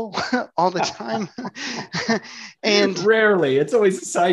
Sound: laughs

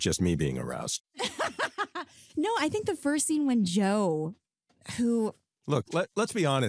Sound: laughs

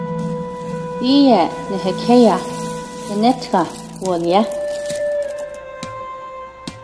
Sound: woman speaking in language other than English

